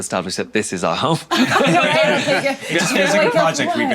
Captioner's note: all laughing